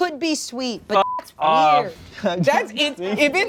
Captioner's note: beep